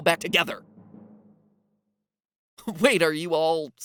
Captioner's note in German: Schweigen